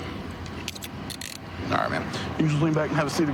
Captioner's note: handcuff closing